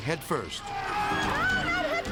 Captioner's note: people yelling